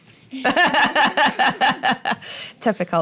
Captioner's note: laughter